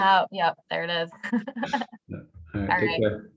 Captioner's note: giggling